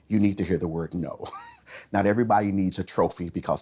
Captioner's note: chuckles